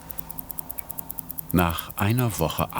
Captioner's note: A quick, quiet ticking